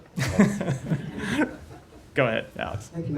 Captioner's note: laughter